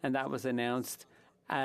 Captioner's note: speaking French